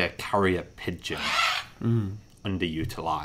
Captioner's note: bird squawks